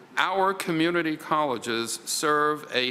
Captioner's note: none